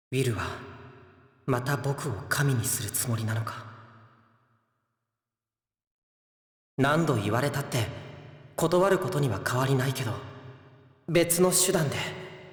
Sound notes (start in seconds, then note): 4.8 silence